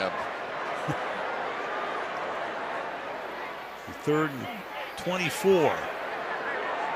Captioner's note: chuckles